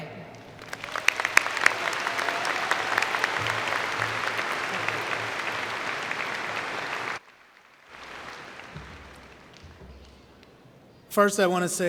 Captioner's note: applause